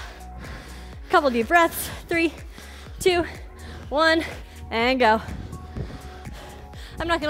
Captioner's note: panting